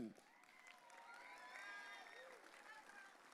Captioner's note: audience cheering